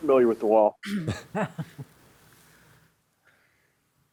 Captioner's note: laughing